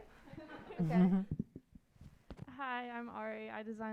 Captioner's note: audience laughing